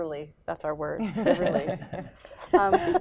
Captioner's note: laughter